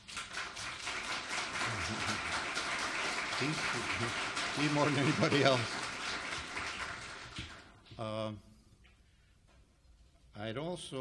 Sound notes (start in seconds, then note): 0.0 audience applauds; 4.8 laughs